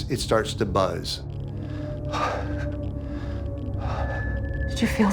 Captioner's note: heavy breathing